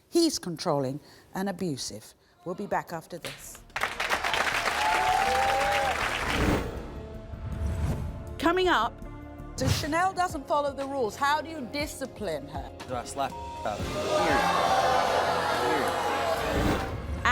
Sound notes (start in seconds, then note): 3.2 crowd clapping; 13.3 beep; 13.8 crowd booing